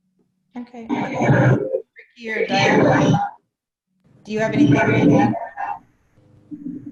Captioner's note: audio feedback